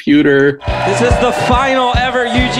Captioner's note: crowd cheering